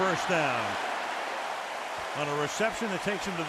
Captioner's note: cheering